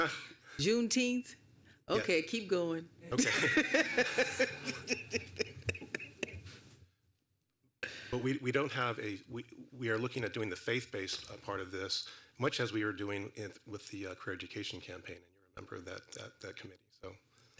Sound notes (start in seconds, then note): 3.1 laughter